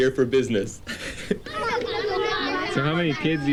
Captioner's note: laughing